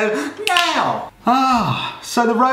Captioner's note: snaps